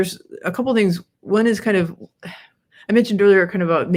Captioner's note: sighs